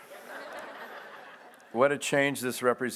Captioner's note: audience laughs